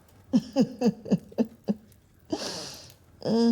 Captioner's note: laughing